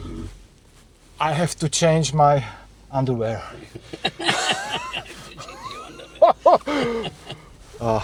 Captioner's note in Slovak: smiech